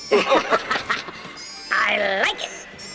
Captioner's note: both laugh